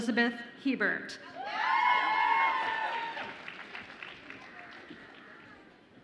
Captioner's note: audience applauds and cheers